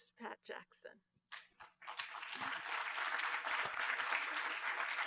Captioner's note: applause